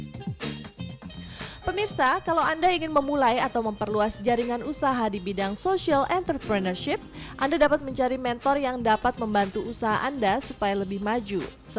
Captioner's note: non-english speech